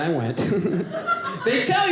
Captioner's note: audience laughing